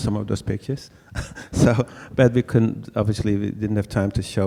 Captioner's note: laughs